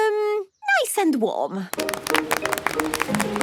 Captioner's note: applause